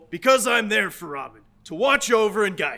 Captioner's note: none